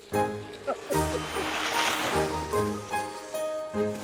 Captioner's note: laughing